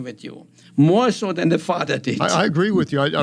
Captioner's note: laughing